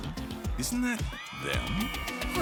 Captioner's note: crowd cheering